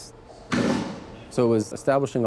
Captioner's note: loud bang